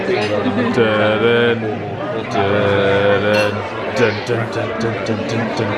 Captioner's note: hums "Jaws" theme